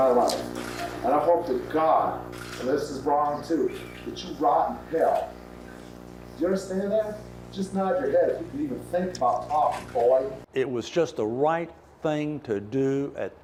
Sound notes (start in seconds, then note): none